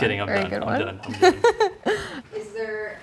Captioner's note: laughing